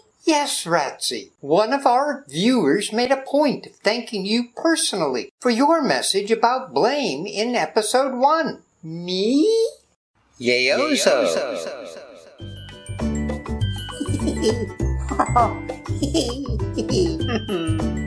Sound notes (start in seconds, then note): 12.2 heartfelt Giggles; 12.4 celebratory Music